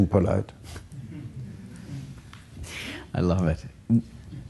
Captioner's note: chuckles